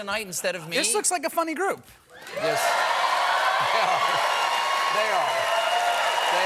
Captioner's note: cheers and applause